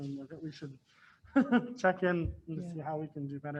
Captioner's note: laughs